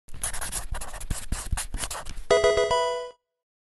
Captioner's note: marker scratching; electronic video game chime